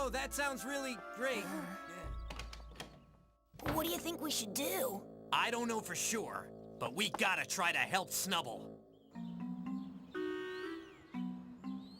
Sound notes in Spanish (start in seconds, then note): 2.1 puerta cierra